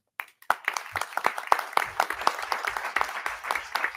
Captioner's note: audience clapping